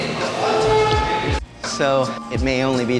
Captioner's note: people talking ambience; stool scraping floor